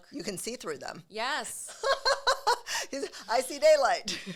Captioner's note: laughs